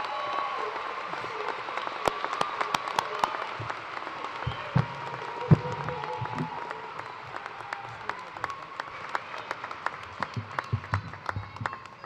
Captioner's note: cheers and applause